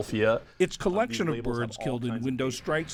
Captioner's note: voice-over